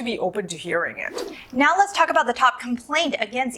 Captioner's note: air whooshes